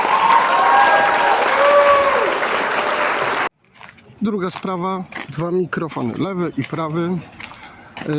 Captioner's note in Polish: Aplauz